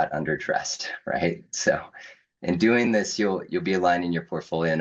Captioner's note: chuckles